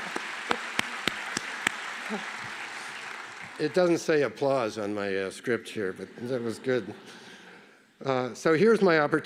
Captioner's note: applause